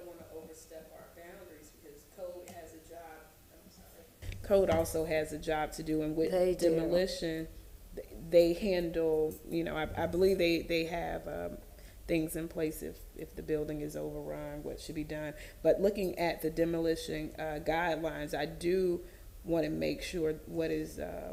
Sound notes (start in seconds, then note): 6.3 off microphone